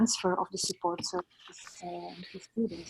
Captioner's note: audio distorts